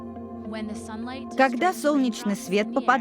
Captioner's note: high-pitched voice